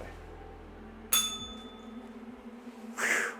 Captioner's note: bell rings